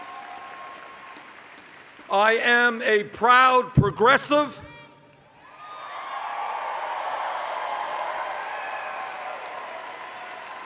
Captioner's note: cheers